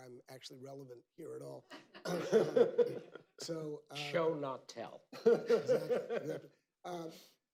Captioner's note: laughter